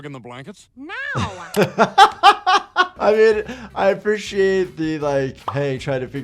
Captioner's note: laughs